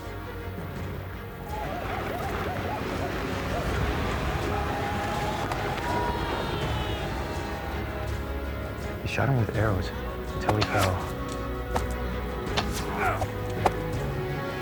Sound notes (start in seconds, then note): 5.8 jed screams; 10.3 arrows fly; 11.1 jed grunts